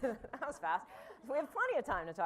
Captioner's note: laughter